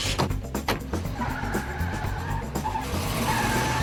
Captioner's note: tires squealing